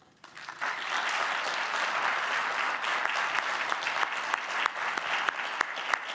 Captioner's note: audience clapping; clapping